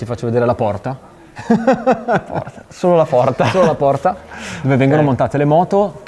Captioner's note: laughters